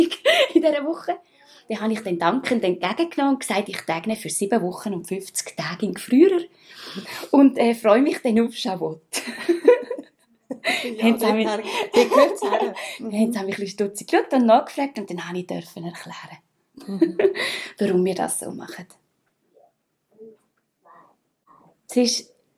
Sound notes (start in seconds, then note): 10.5 giggles